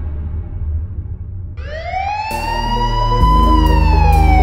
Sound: police siren

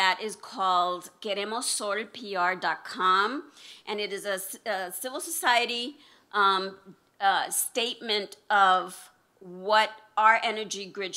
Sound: non-english speech

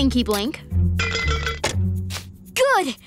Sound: rattling

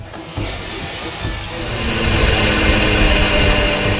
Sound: engine revving

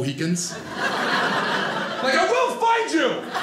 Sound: audience laughing

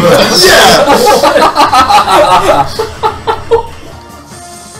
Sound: laughing; cackles

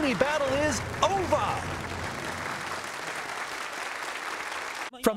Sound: applause

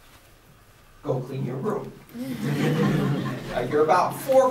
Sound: laughter

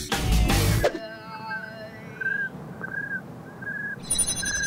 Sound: chirping like a cricket

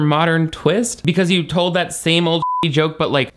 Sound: beep

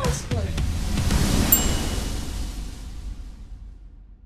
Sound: upbeat music fades; star dings

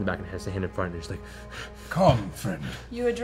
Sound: panting

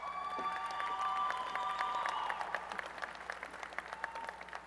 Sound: applause and cheering

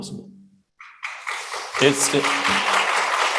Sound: applause

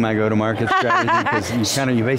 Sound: laughing

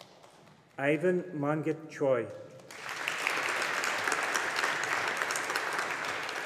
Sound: audience applauding

